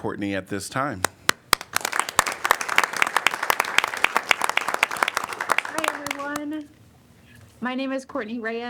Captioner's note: applause